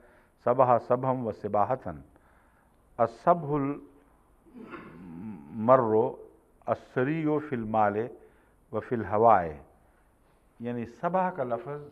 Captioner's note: Arabic